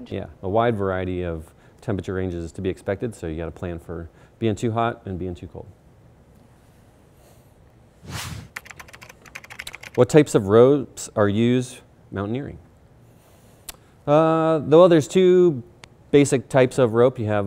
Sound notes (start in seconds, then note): 8.0 air whooshing; 8.5 keyboard clicking; 13.7 smacks lips